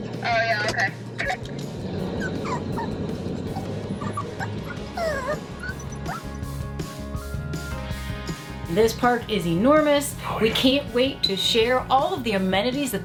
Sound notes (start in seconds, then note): 3.4 dog whimpering; 4.5 lively music